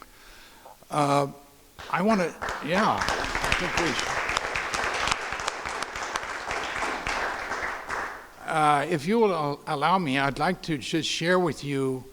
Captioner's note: crowd applause